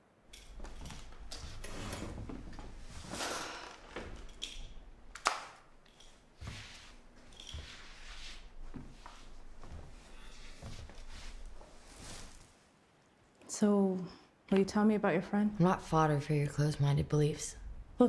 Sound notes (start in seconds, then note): 0.4 chair scrapes; 7.9 Claire's feet shuffle